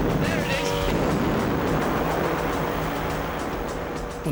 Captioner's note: boat engine revving; dramatic music